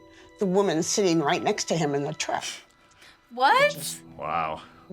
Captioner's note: scoffing